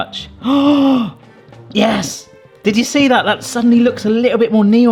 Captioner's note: gasps